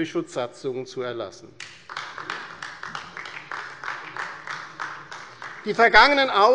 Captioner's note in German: Beifall bei der LINKEN